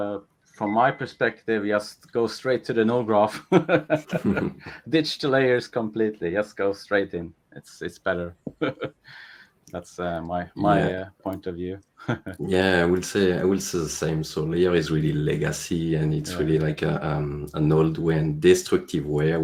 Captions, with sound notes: - From my perspective, just go straight to the node graph (laughs) ditch layers completely. Just go straight in, it's better. (laughs) That's my point of view. - Yeah, I will say, I will say the same. So layer is really legacy, and it's really like an old way, destructive way,